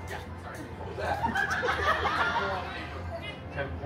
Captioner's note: guests laughing